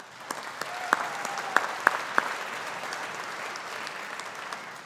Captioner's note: audience applauding